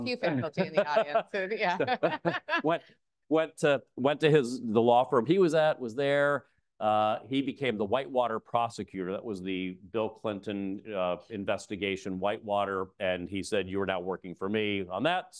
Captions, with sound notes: (Alex laughs) - We have a few faculty in the audience, so yeah. (laughs) - Went to his, the law firm he was at was there. He became the whitewater prosecutor. That was the Bill Clinton Investigation Whitewater. And he said, "You are now working for me on that."